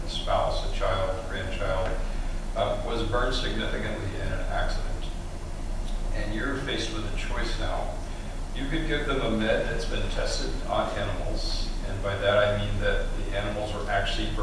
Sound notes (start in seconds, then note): none